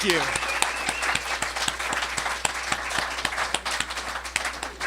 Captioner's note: cheering